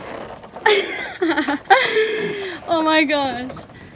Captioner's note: laughing